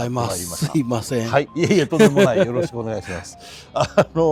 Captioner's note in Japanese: 笑い